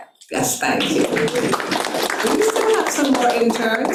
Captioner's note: attendees clapping